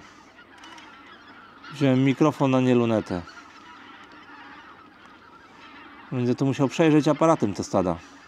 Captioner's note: Geese